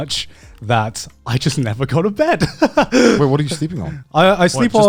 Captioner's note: laughs